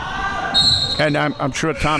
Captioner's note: whistle blowing